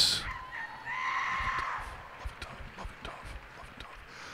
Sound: cheers and applause

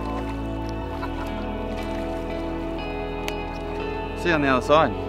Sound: people chatter

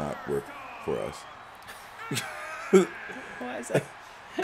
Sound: laugh

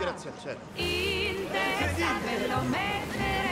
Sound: whooping

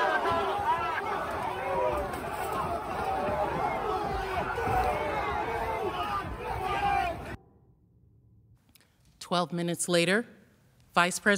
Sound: yelling

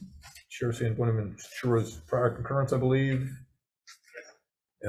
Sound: speaks faintly

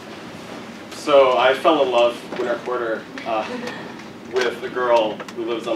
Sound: laugh

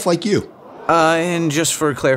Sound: audience gasps

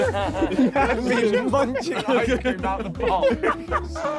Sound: all laughing

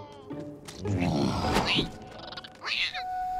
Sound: grunting; squeaking

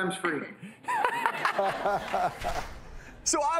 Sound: audience laughs

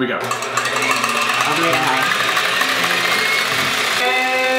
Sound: machine whirring

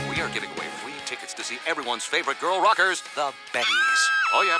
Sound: both scream

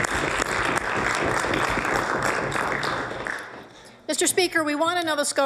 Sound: applause

